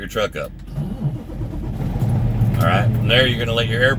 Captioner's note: engine turning over